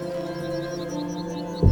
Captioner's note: eagle whistles